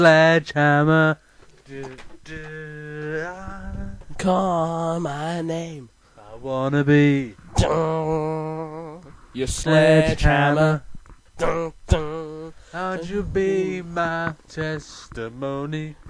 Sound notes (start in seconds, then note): 7.3 mimicks guitar; 11.0 mimicks guitar